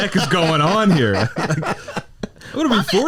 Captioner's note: laughs